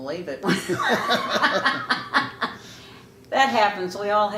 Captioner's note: laughing